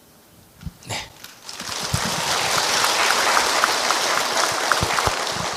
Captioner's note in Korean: 청중 박수